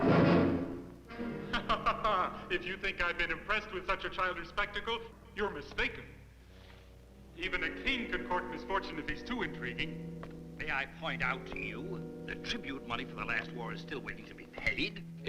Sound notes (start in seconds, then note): 1.4 laughs